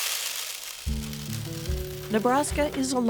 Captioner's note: grain pouring